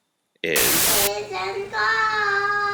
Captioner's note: static